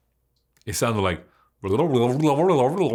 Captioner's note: gibbering